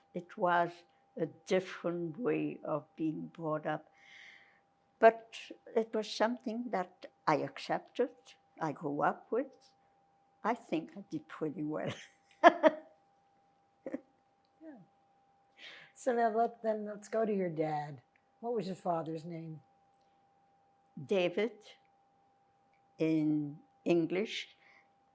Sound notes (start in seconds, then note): 12.4 laughing